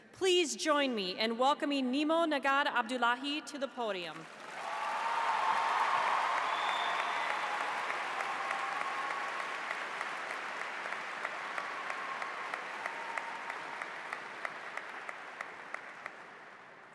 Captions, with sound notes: Please join me in welcoming Nimo Nagad Abdulahi to the podium. (audience applauds) (cheers)